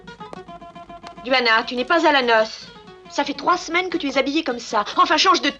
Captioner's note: actress speaking in French